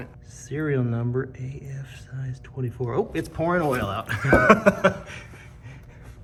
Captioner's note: laughs